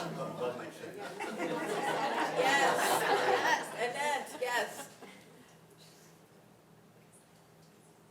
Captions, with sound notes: Above my chin. (audience laughing) - Yes. - Yes.